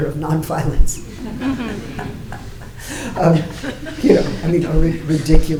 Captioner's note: audience laughing